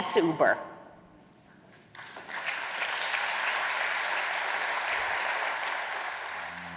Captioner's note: applause